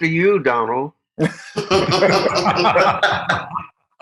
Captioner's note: all laughs